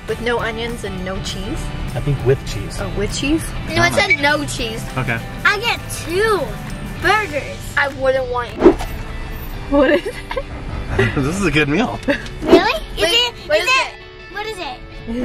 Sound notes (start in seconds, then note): 9.8 laughs